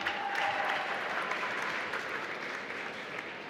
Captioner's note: applause